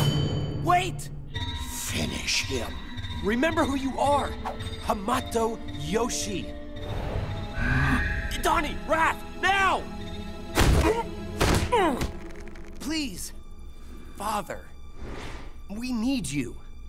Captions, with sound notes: Wait. Finish him. Remember who you are, Hamato Yoshi. Donnie, Raph, now! [grunting] Please, father. We need you.